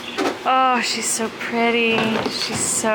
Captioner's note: groaning